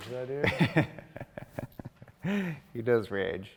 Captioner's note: laughs